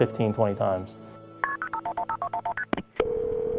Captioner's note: dialing